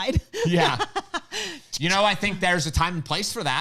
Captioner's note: laughing